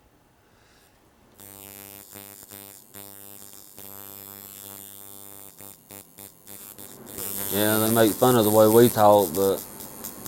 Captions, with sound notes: [Buzzing of a tattoo gun] Yeah, they make fun of the way we talk, but